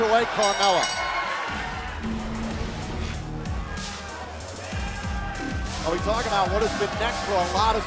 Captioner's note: bell ringing